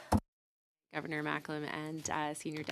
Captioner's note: speaking French